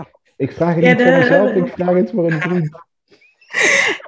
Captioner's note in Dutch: gelach